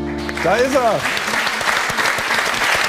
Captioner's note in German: Applaus